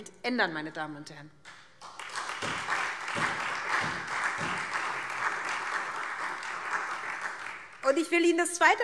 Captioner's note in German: Beifall SPD, Freie Demokraten und DIE LINKE